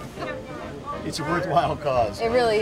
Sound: laughs

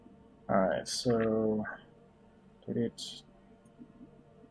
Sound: hums

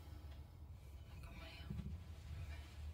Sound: whispering

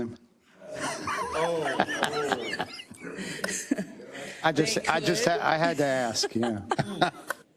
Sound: laugh; laugh

